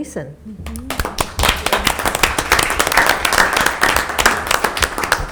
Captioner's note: board members clapping